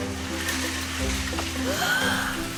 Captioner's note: gasps